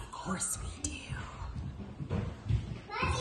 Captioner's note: door closing, kids chattering